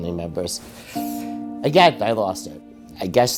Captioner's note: inhales sharply